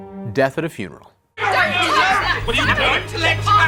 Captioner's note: mourners yelling